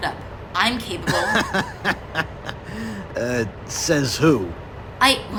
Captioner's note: laughs